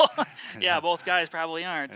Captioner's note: laughs